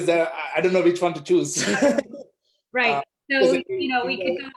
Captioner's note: laughs